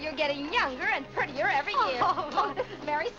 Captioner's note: Vinnie laughs